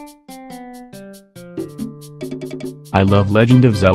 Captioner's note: the entirety of this video is spoken by a robot voice